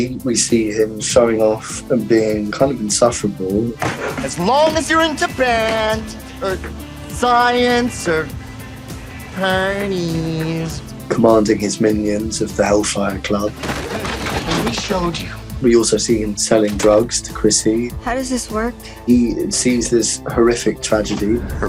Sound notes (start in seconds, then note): 3.8 Eddie hitting table